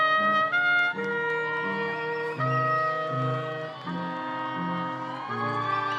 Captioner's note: attendees applauding and cheering